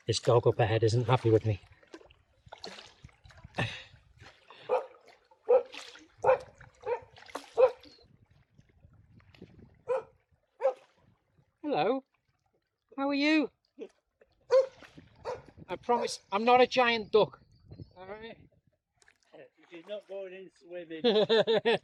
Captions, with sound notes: This dog up ahead isn't happy with me. [barking] Hello, how are you? [barking] I promise I'm not a giant duck. "Shes not going in swimming"